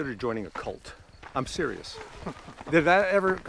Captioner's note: Pete laughs